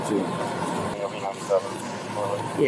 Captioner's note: radio chatter